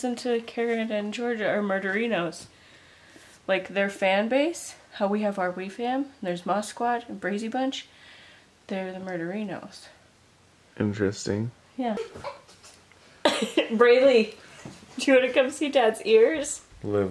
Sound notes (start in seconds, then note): 12.0 laughing